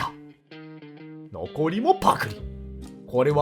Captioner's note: gulp